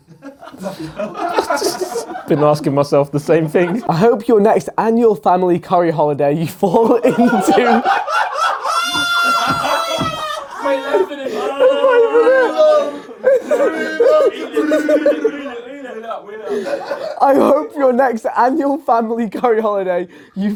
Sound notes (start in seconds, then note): 0.0 audience laughs; 7.5 laughs; 8.3 audience laughs; 12.9 audience mumbles